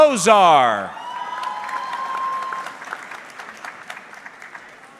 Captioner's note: audience clapping